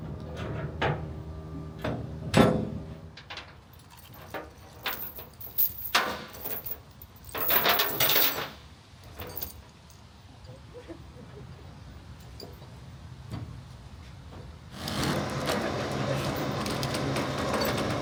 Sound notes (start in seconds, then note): 3.7 chain clinking; 14.8 lift whirring